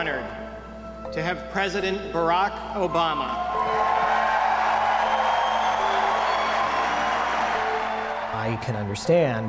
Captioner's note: cheers